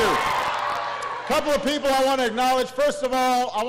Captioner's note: applause